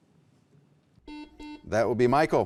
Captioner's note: beeping